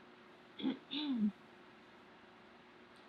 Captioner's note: clears throat